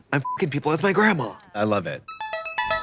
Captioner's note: beep